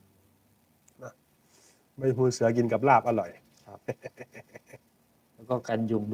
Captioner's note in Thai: เสียงหัวเราะ